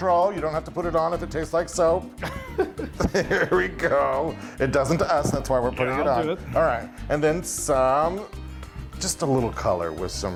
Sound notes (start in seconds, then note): 2.2 laughs